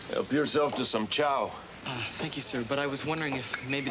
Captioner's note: none